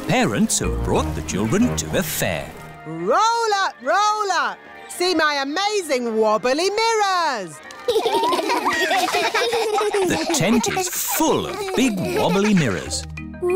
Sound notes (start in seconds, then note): 7.8 laughter